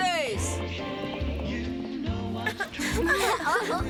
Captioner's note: giggling